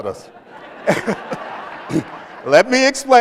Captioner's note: laughter